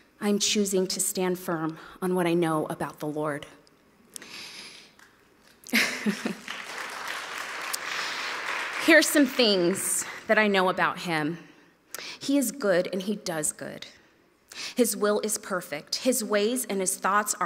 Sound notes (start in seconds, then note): 5.7 laughs; 6.0 audience applauds